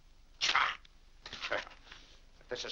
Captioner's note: grumbles; paper crumples